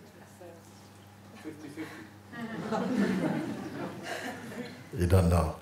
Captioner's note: Lachen